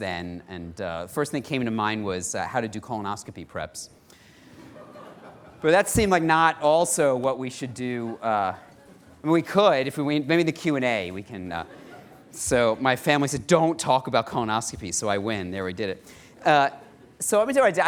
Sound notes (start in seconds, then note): 4.6 laughter